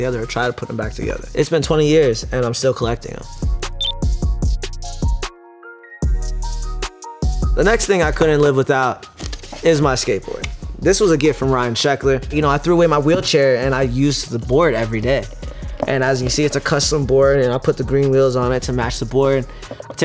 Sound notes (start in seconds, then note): 3.8 electronic beep; 3.8 hip hop music